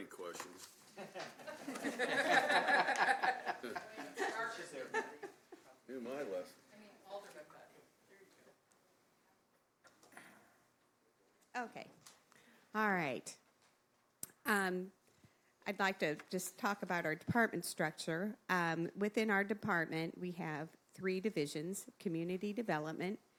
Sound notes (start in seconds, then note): 6.6 laughter